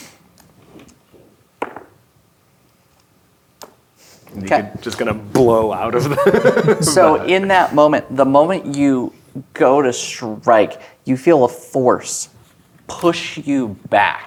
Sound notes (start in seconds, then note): 1.1 dice rolling; 4.8 laughs